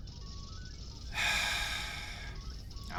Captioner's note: sights